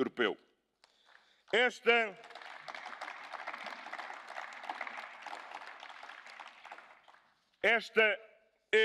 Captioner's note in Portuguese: Aplausos